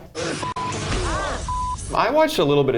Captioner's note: grunts